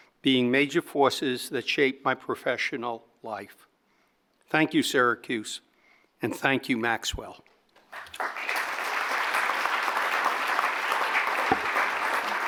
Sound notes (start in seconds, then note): 7.9 audience applauding